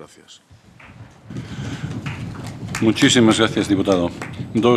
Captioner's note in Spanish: Aplausos